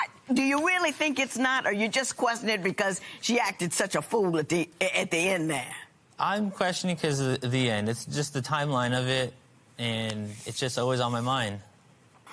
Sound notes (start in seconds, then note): none